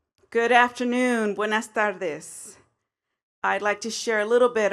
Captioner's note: speaks in foreign language